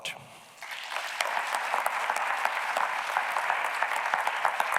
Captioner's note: audience clapping